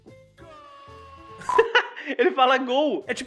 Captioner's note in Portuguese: risos